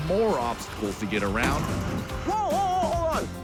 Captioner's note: thudding